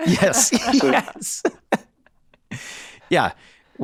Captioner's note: Glenn laughing